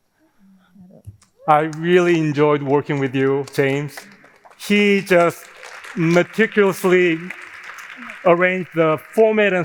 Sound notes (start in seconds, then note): 4.1 audience applauding